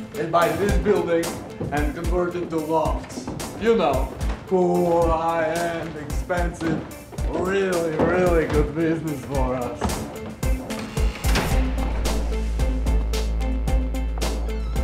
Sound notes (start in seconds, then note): 10.4 buzzer; 10.5 metal door clunk; 12.3 rhythmic discordant music